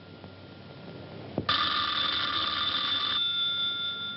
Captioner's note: ringing